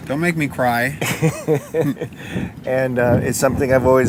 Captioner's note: laughing